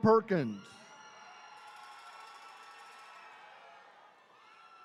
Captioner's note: attendees cheering